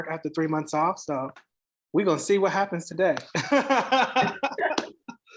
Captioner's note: laughs